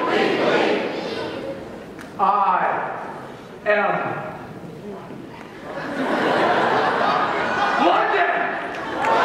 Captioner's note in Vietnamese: tiếng cười